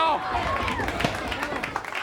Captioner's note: crowd chatter